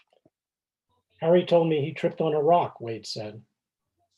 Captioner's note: pages turning